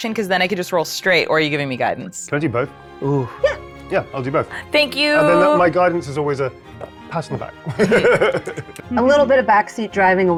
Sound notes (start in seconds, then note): 7.6 chuckles